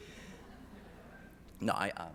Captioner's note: audience laughing